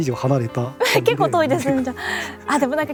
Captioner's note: laughs